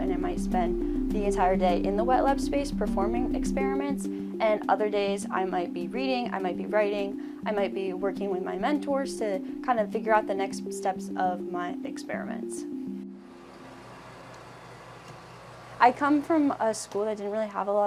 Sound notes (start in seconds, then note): 13.2 machine whirring